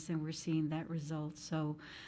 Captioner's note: none